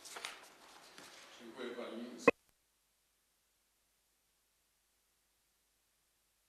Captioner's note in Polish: brak głosu